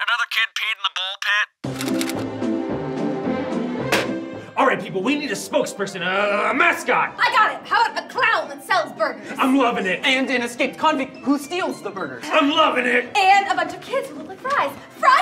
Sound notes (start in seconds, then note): 2.0 jaunty music; 4.1 telephone banging